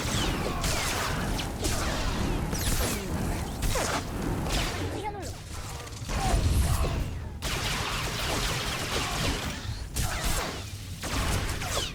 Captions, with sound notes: (gun fires) - Damn it. (gun fires) (gun fires)